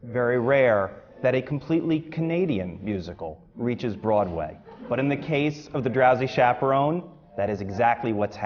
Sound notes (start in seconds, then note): 4.5 laughter